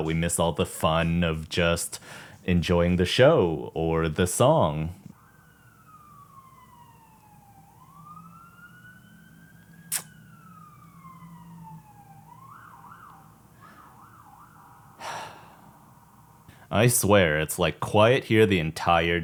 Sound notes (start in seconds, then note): 5.1 sirens